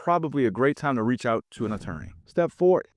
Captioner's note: screen whooshing